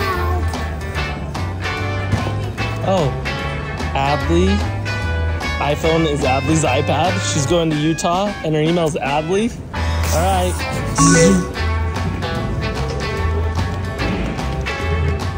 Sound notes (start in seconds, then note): 10.9 upbeat music; 11.0 scanner beeps